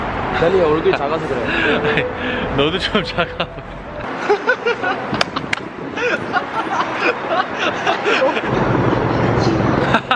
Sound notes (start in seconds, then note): 4.3 he cracks up